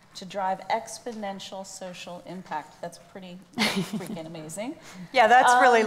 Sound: laughs

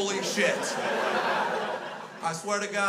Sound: crowd laughs

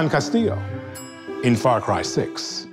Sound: chime

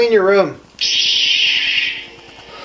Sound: lightsaber turns on

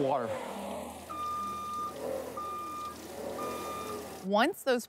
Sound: truck beeping

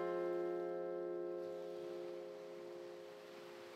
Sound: waves lap the shore

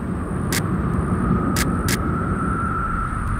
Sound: none

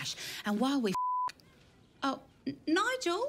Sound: beep

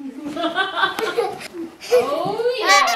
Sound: laughing

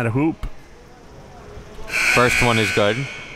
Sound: klaxon sounds

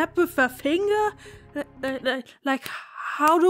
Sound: sad attempts at snapping

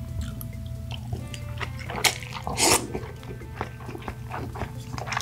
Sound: inhale

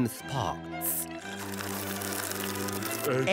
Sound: sipping

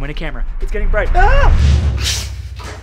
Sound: exclaims

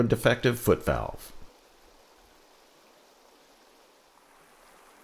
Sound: rushing water

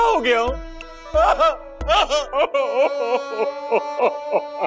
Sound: crying

